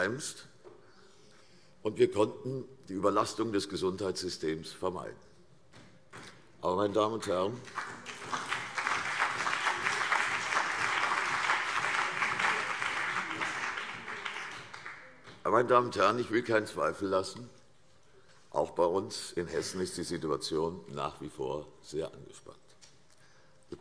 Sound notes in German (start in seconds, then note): 5.2 Beifall CDU und BÜNDNIS 90/DIE GRÜNEN